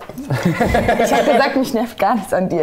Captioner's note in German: Lachen